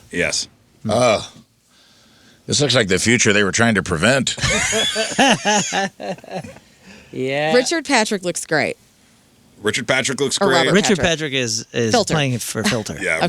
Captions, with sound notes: Yes. This looks like the future they were trying to prevent. (laughing) Richard Patrick looks great. Richard Patrick looks great. Richard Patrick is playing for filter.